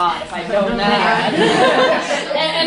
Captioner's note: laughter